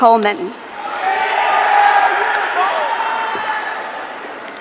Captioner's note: audience cheering